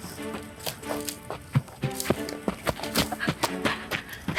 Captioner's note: footsteps running